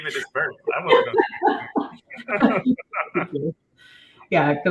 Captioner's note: chuckles